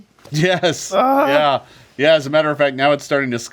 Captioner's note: Ikyulus groans